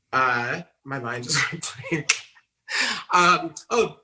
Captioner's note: laughs